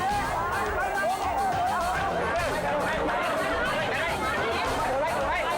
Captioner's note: all shouting in foreign language